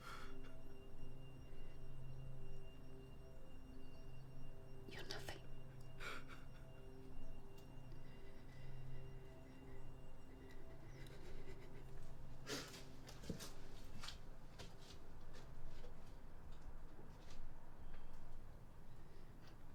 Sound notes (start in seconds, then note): 0.3 soft dramatic music continues; 5.9 man continues crying softly; 8.8 soft dramatic music continues